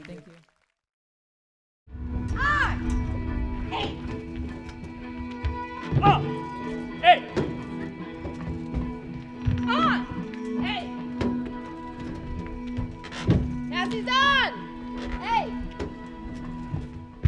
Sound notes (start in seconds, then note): 0.0 audience claps and cheers; 2.2 upbeat music; 2.4 woman yells